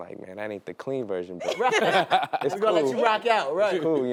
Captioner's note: laughter